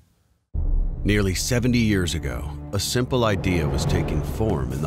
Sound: voiceover

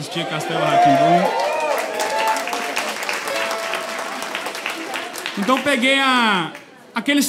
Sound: applause

